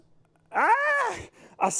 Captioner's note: screaming